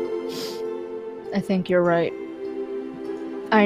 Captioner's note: sniffles